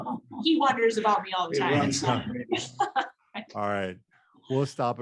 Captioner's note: laughs